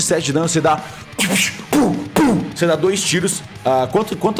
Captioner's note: pshpsht